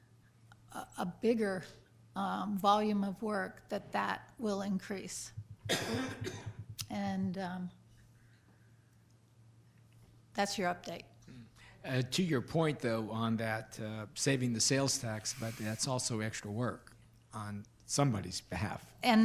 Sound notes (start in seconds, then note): 5.6 coughs